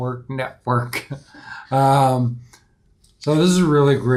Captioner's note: laughs softly